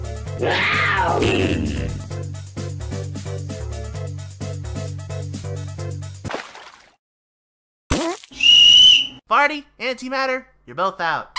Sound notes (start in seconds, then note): 0.4 roaring; 1.1 intimidating fart noise; 8.3 whistle